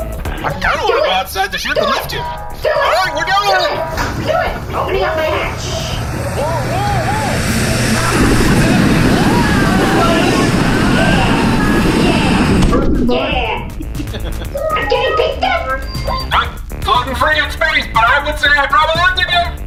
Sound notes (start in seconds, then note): 6.3 screaming